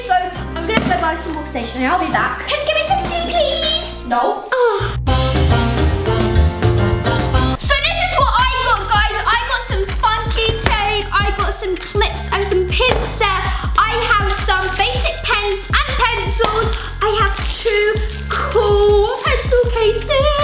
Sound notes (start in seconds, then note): 4.5 sighs; 5.3 upbeat music